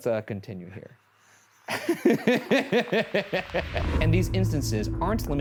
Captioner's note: laughs evilly